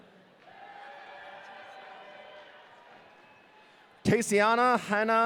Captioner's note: audience cheering